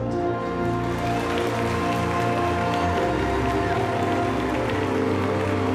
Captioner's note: crowd cheering